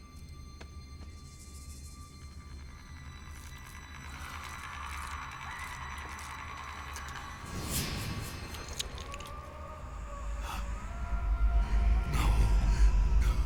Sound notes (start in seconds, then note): 9.0 gasps